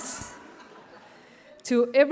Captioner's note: audience laughs